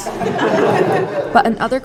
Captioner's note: laughter